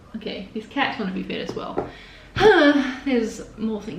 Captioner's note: sighs loudly